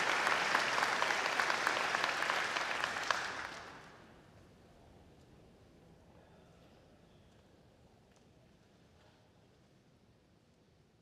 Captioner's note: applause